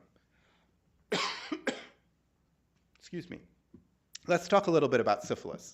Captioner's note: coughs